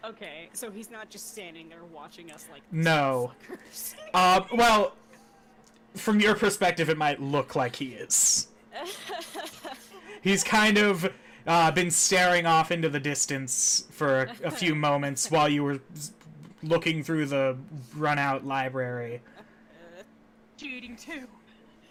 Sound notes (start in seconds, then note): 7.6 wheezing; 8.8 laughing